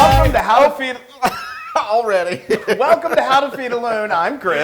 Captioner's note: laugh